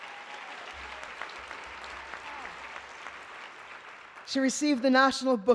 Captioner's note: applause